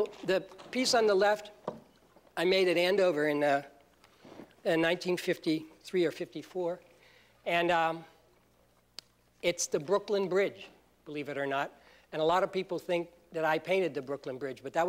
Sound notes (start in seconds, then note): none